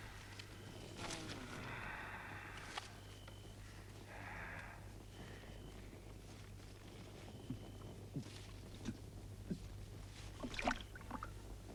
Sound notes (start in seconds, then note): 7.8 Torente gulping